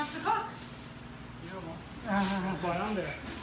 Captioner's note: laughs